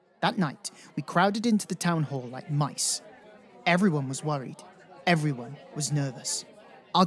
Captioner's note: crowd noises